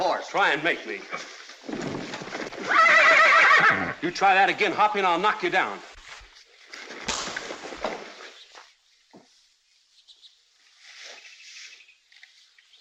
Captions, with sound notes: Try and make me! [ HORSE NEIGHS ] You try that again, Hoppy, and I'll knock you down. [ PUNCH ]